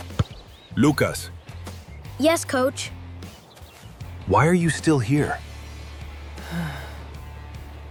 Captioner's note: sighs